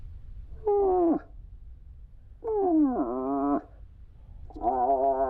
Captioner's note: moose call grunting